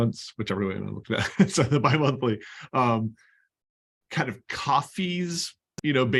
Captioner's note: laughter